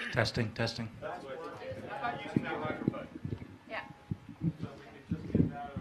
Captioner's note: technical chatter